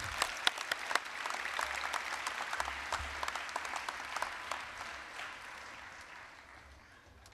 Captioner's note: applause